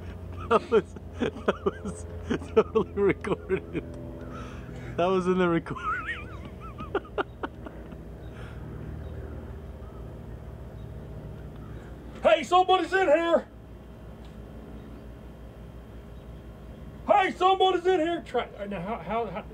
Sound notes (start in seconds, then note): 0.1 camera Man laughing... "That was recorded"; 5.6 camera Man laughing... "That was in the recording" laughing